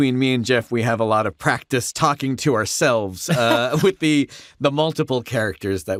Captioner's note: laughter